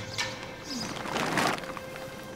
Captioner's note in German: Rascheln